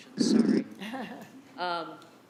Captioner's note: laughing